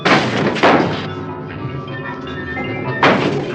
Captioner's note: crash